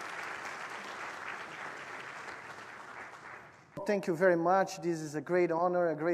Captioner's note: applause